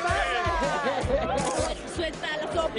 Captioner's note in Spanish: risas